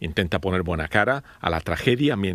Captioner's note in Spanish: habla en ingés